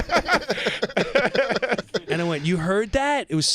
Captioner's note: laughter